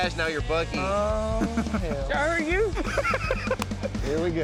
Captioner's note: laughter